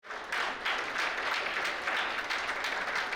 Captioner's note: applause